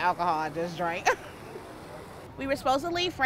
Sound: laughing

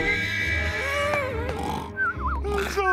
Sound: snoring

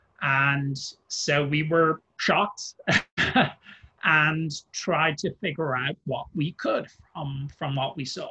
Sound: laughs

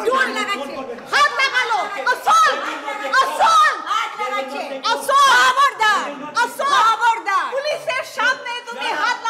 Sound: she screams

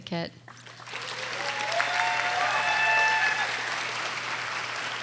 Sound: audience applauding

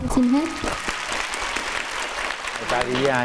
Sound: clapping hands

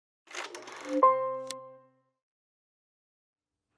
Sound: projector clicks

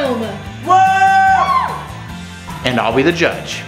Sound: whoops

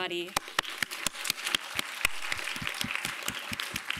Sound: applause

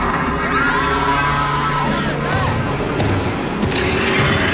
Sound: screaming

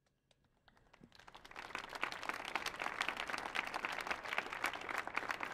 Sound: audience applauding

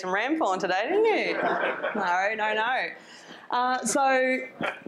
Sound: audience giggles

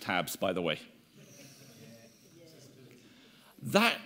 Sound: audience speaking indistinctly

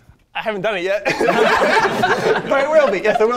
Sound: participants laughing

